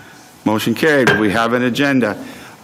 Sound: gavel raps desk

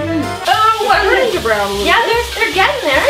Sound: funky music; pan sizzles

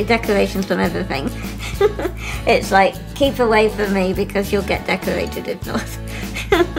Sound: laughs; laughs

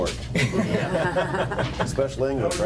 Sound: people laugh

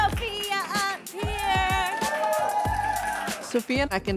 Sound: audience cheering

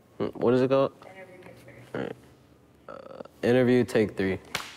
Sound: clapperboard clapping

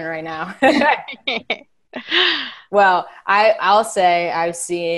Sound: laughing

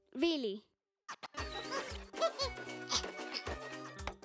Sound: chirping

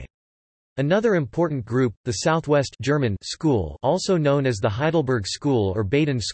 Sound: German

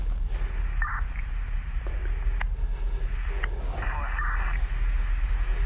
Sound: police radio chatter

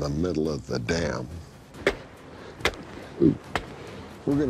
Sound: banging

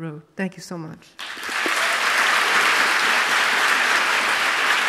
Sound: audience applauds

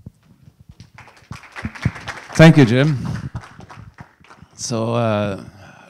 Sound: audience applauding

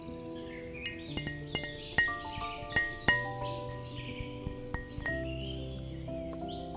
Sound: gentle tapping

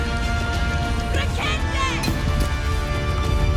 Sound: villagers screaming

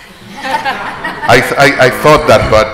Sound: group chuckles

